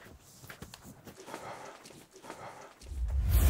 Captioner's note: Exhales